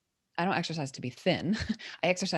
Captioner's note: chuckles